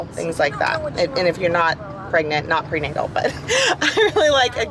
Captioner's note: laugh